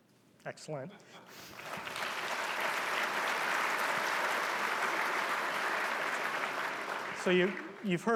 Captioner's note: applause